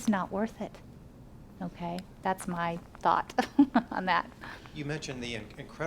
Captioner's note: laughs